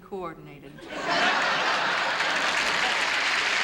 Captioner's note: laughter; applause